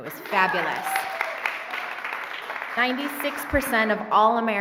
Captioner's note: cheering and applauding